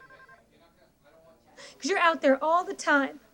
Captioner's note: telephone ringing; people chattering